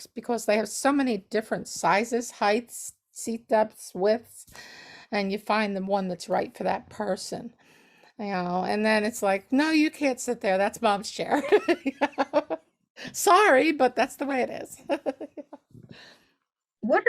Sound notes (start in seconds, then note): 12.0 laughs; 15.0 laughs